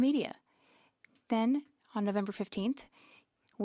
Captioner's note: speaking French